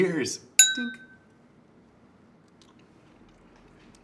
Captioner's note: clinking noise